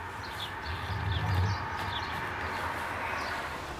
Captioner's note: birds chirping